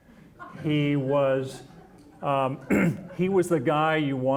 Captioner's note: audience laughing